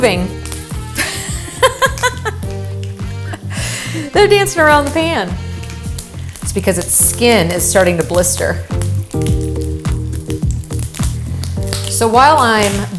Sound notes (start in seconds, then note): 0.2 music, sizzling; 4.6 laughs; 12.7 music, sizzling